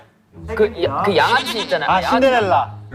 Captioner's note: mispronunciation